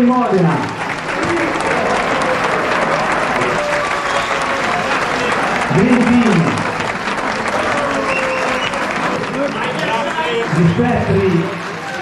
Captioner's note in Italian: Applauso